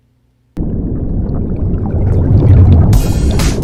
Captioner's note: water boiling; bright upbeat music